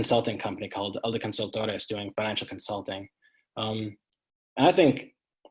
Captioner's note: speaking in foreign language